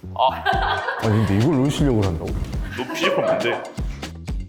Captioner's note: the raging